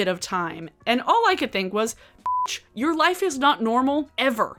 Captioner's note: beep